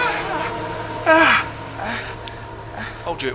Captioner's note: Daveyboy screaming; Daveyboy breathing heavily